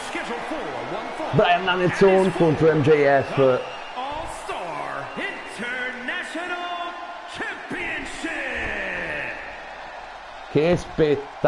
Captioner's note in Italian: Applauso